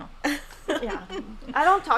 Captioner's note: laughing